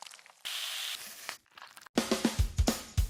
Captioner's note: meat squishing; sizzling; upbeat music